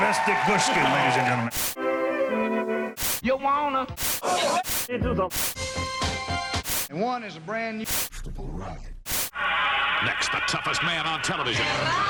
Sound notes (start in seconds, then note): 1.2 static; 1.8 gentle music; 3.8 static; 4.8 cheesy music; 5.3 static; 9.0 static